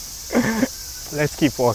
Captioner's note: gasp